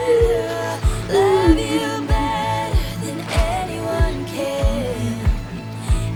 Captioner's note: crying and heavy breathing